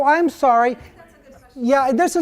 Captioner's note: voiceover